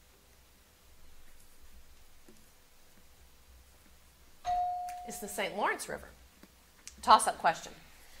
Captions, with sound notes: (bell ringing) It's the St. Lawrence River. Tossup question.